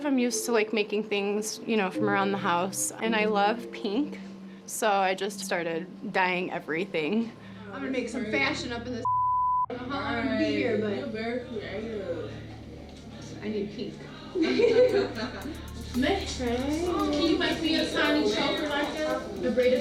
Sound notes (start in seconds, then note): 14.3 laughter